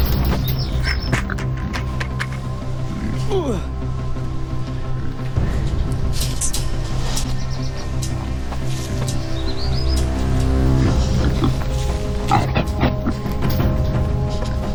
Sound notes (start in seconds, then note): 12.6 wild boars grunting in the distant forest